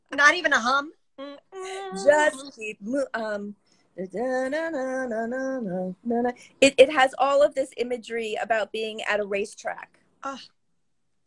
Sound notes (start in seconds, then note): 2.9 singing; 4.0 humming